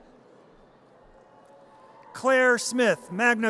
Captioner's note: audience cheers